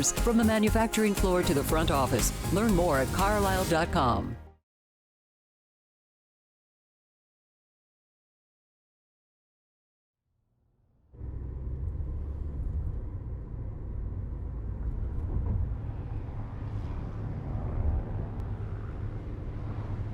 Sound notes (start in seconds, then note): 11.1 car engine rumbling; 17.0 plane engine buzzing in distance